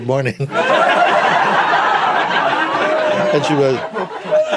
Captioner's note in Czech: smích